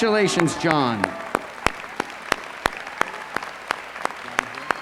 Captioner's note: applause